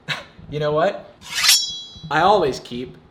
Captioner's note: blade slicing